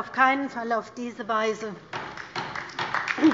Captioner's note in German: Beifall bei der LINKEN